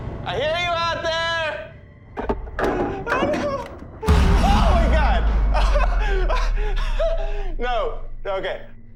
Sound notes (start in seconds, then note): 2.5 nervous; 5.4 laughing through the fear